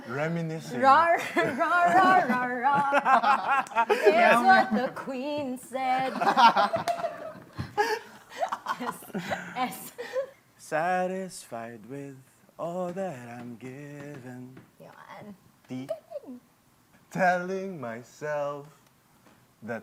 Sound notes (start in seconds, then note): 1.6 singing; 3.2 laughter; 5.9 laughter; 10.0 laughs; 10.9 singing; 17.1 singing